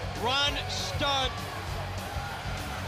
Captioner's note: crowd cheering